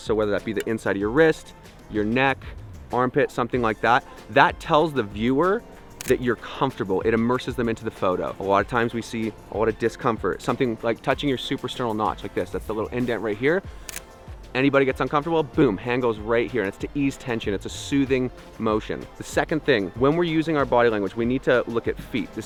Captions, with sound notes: So, whether that be the inside of your wrist, your neck, armpit, something like that, that tells the viewer (camera shutter closes) that you're comfortable. It immerses them into the photo. A lot of times we see a lot of discomfort. Something touching your suprasternal notch, like this. That's the little indent right here. (camera snaps picture) Anybody gets uncomfortable, boom, hand goes right here, and it's to ease tension. It's a soothing motion. The second thing. When we're using our body language, we need to look at feet.